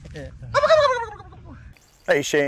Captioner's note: man making gobble noises